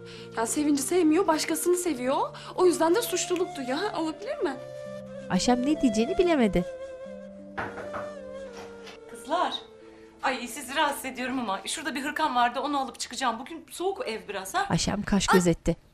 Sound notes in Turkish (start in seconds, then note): 7.5 Kapı vurma sesi